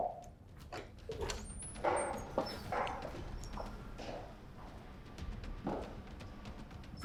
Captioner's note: footsteps tapping; dramatic music continues